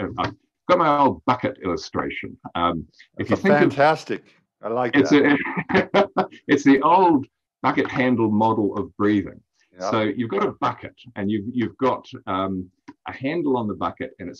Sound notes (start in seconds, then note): 4.8 laughs